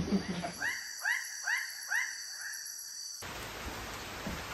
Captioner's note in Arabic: نقيق السيكادا